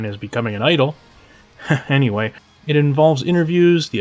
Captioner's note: chuckles